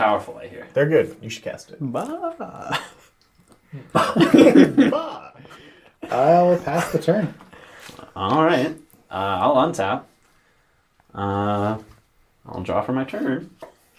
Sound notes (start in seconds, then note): 3.7 all laugh